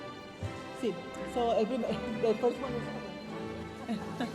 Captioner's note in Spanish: hablando en inglés